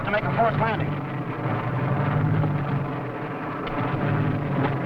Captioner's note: plane whirring